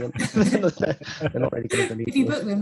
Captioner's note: group laughs